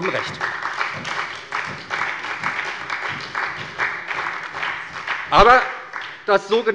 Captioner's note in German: Beifall bei der SPD